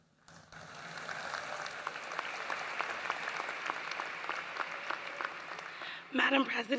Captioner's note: applause